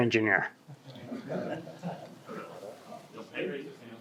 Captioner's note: audience laughs